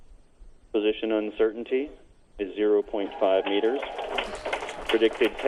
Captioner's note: applauding